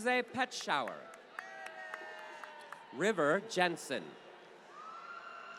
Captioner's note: applause